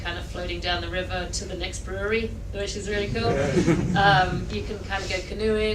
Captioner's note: laughter